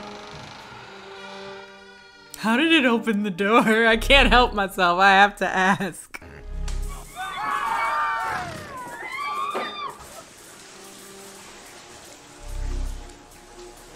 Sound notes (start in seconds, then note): 0.0 door hinges cringing; 0.0 suspenseful music; 6.5 blow thuds; 6.9 people screaming; 9.9 electric humming